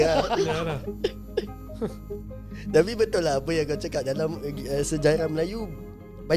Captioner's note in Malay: ketawa